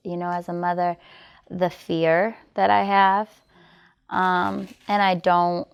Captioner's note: camera clicking